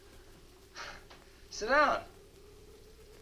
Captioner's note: chuckles